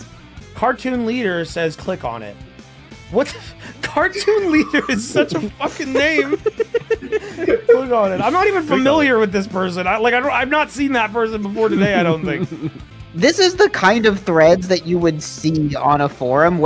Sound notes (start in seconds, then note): 3.6 laughs